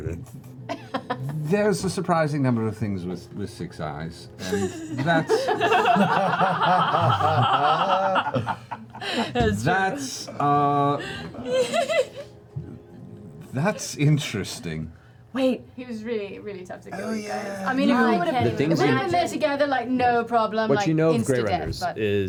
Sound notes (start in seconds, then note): 4.4 laughter